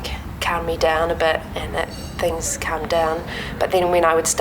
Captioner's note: cafe sounds